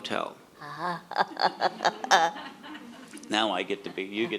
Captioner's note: laughs